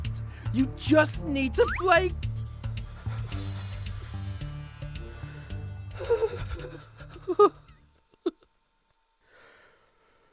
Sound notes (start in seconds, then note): 6.0 whining